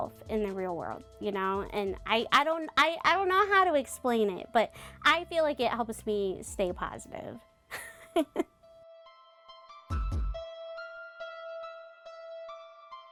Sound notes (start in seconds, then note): 8.1 laughs; 9.8 upbeat music